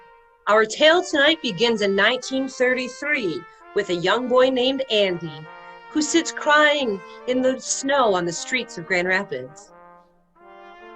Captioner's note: Ginger/Andy crying